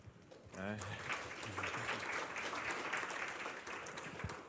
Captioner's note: applause